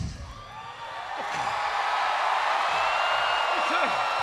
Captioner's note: crowd cheering